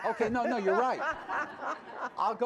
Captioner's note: laughter